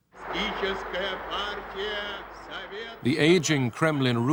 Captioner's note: russian announcement